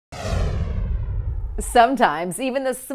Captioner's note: logo whooshing